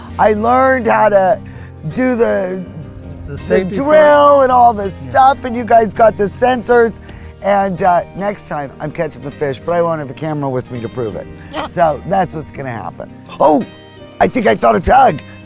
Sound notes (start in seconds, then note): 11.5 laughs